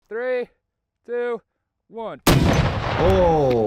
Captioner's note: ballistic missile blasting